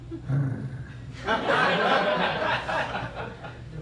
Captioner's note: laughter